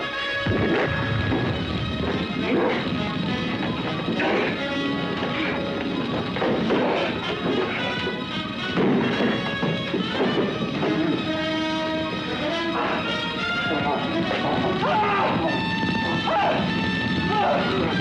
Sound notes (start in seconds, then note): 0.2 flames burst; 3.4 Bill groans & whimpers; 3.4 suspenseful music; 14.6 Bill cries out; 14.9 flames crackle